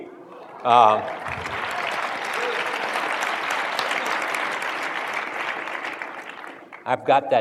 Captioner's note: applause